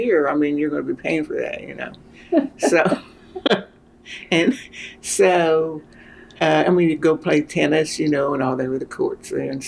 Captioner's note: laughter